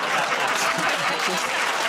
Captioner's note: laughter and applause